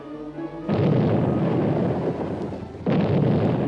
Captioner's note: apprehensive music continues; cannon blasts